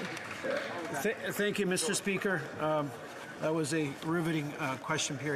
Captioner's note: applause